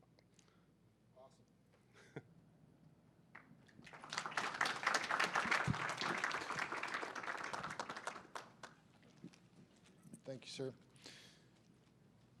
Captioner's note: applause